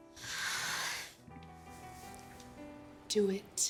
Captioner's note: Holly exhales nervously